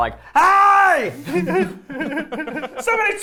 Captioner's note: shouting; people laughing